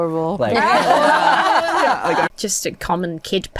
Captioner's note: guests laugh